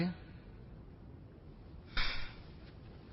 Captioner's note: sighing